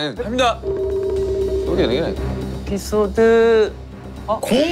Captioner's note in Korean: 두근두근